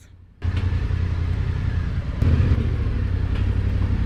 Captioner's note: bike burbling